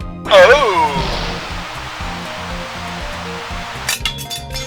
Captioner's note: Static